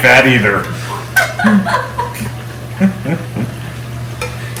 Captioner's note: laughter